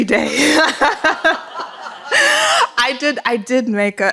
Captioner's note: laughter